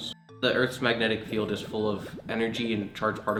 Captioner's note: sound of bubbles popping